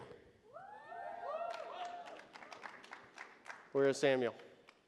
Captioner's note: audience cheers